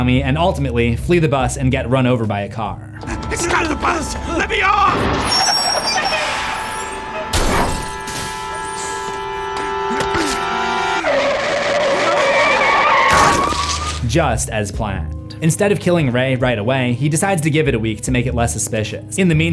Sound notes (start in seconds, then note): 9.9 tires screech, car impact; 11.1 tires screech